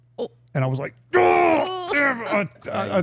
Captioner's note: participant laughing; grunting